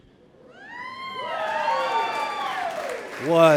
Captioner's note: audience applauding